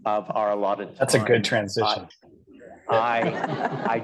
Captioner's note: laughter